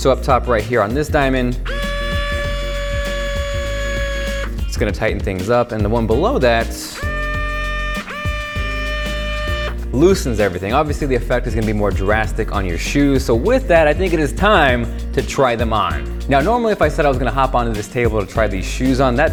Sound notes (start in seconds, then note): 1.6 whining; 6.6 whining